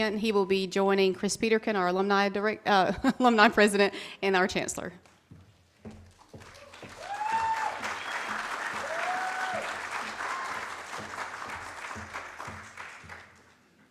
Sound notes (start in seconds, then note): 6.4 audience cheers